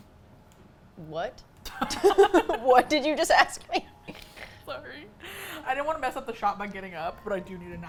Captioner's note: both laugh